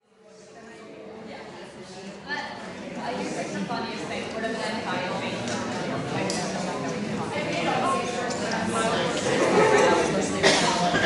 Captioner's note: crowd chattering